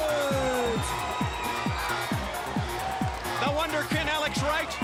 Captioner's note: crowd cheering